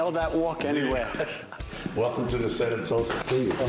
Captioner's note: laughter